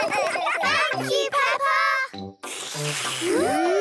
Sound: all slurping

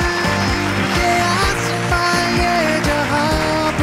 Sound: theme music playing; all applauding

